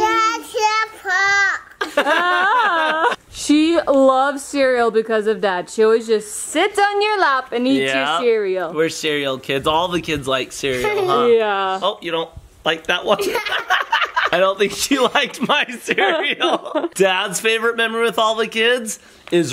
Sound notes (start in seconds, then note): 1.8 everyone laughing; 13.0 laughs